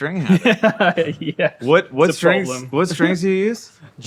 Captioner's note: laughing